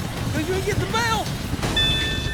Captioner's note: bell rings